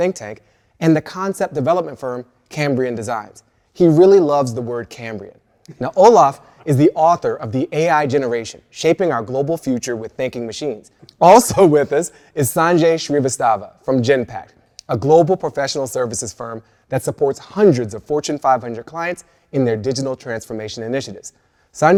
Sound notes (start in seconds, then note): 5.4 laughs